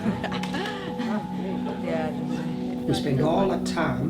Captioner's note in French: rit inconfortablement